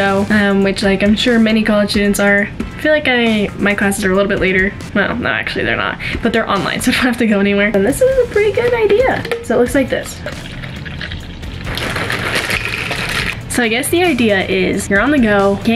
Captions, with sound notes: which like I'm sure many college students are. I feel like my classes are a little bit later. Well, no actually, they're not. But they're online. So I don't have to go anywhere. And this was a pretty good idea. So it looks like this. (milk pouring)` (cereal pouring in milk) So I guess the idea is you're on the go,